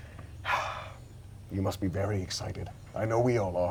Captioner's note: sighs